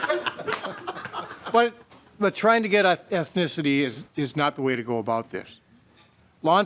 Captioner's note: laughing